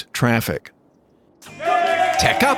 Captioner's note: cheering